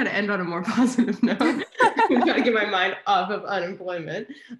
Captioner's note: both laugh